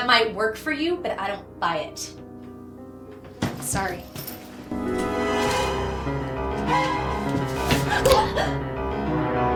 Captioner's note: stab